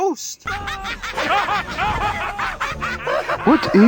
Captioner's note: everyone laughs